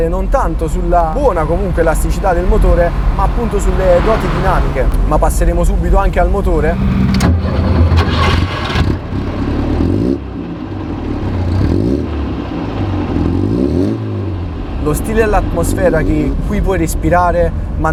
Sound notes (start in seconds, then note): 6.6 engine ignition